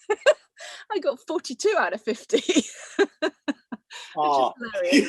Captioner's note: laughs